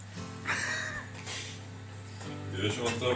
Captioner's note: laughing